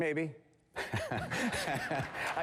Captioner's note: laughter